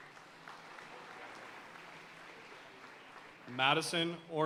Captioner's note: audience cheering and applauding